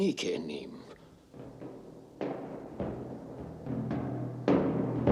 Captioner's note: knock